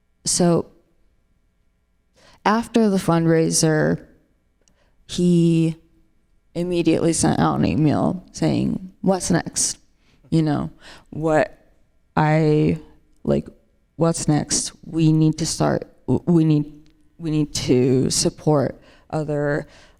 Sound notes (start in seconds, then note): none